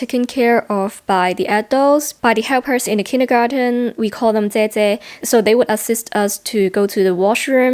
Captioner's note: Cantonese